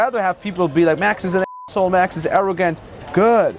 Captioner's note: beep